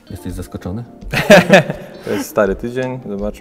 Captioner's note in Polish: śmiech